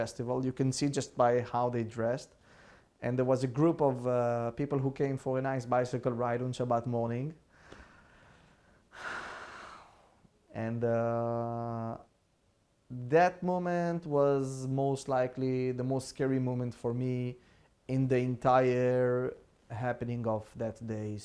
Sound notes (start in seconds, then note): 8.9 sighing